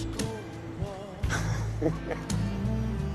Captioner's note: laughing